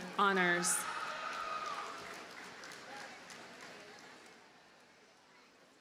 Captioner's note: audience cheers and applauds